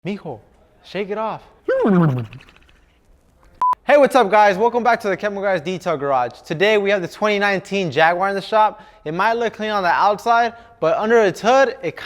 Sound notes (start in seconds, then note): 1.7 bubbling; 3.6 beep